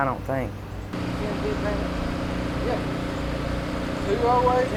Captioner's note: chatting in distance